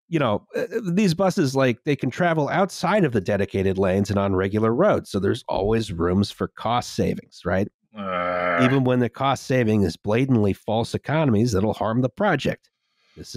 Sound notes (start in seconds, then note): 7.9 aarrrrrhhh